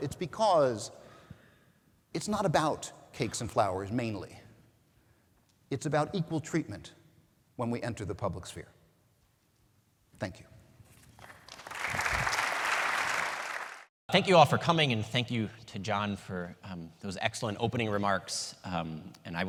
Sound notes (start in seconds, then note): 11.2 audience applauding